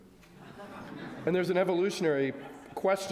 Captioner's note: audience laughs